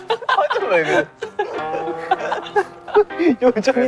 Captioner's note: unable to hold the laughter